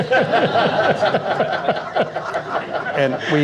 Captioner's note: laughter